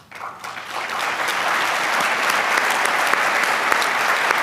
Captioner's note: applause